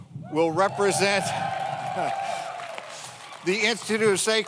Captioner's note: audience cheers; audience applauds